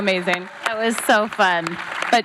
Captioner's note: audience applauds